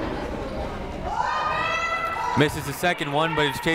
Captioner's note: people shouting in the crowd